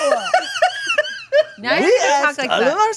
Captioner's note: laughing; chuckling